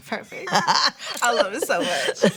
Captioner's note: laughing